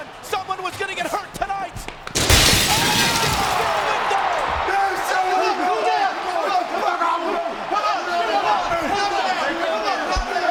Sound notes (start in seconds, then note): 2.1 glass shattering; 3.4 crowd cheering; 6.4 people yelling